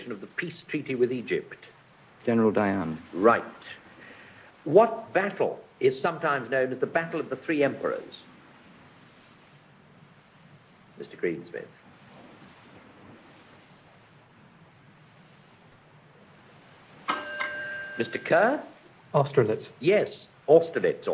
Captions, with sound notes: of the peace treaty with Egypt? General Dayan. Right. What battle is sometimes known as the Battle of the Three Emperors, Mr Greensmith? *ding* Mr Kerr? Austerlitz. Yes, Austerlitz,